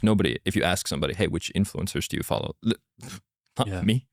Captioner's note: laughs